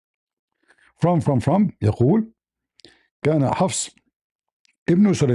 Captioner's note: Arabic